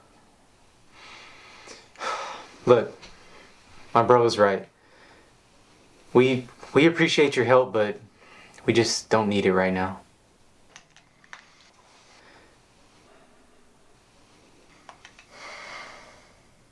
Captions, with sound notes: - (sighing) Look, my brother's right. We, we appreciate your help but we just don't need it right now.